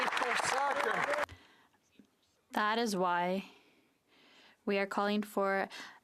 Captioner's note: applause